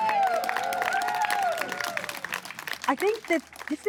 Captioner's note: crowd cheers